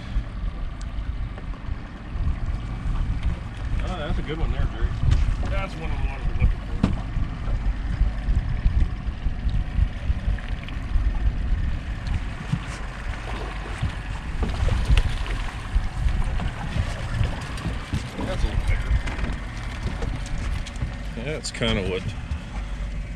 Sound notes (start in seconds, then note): 0.1 boat engine idling; 10.1 boat engine idling; 12.0 fish splashing